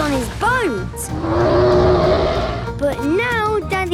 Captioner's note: loud roar